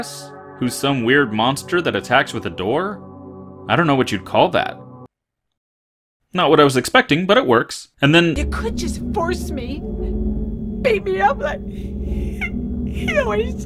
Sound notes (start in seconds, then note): none